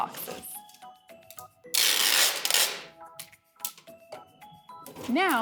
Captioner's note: sound of packing tape dispenser